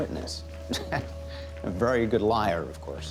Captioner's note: chuckles